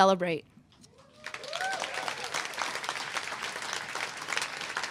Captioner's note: applause